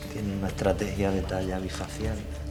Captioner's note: speaking Spanish